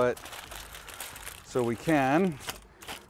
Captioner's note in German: Folie knistert